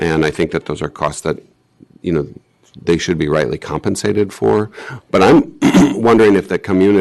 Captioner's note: clears throat